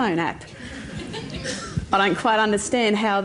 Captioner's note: laughter